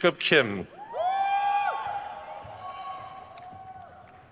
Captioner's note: crowd cheers